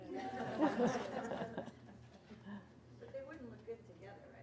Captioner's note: audience laughs